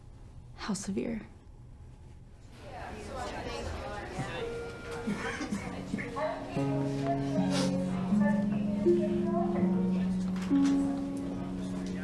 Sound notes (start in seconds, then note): 2.6 people chattering; 5.0 coughing; 6.2 gentle music